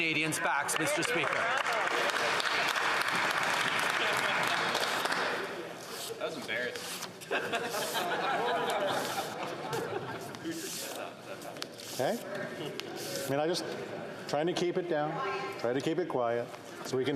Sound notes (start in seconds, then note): 4.6 some Applause